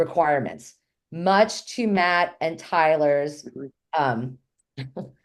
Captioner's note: laughs